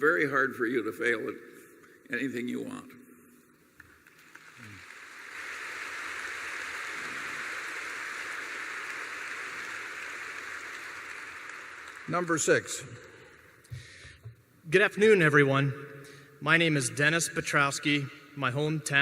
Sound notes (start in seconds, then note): 4.4 applause